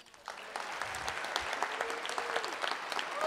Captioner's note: applause